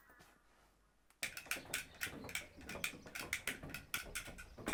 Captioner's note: cap guns clicking